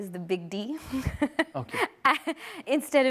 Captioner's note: laughs